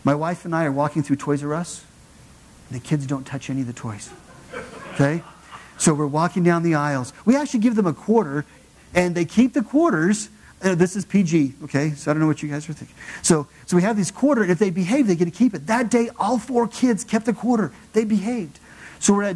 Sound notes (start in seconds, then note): 4.0 laugh